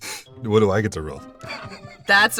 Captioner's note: chuckles